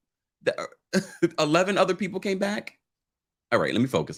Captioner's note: laughs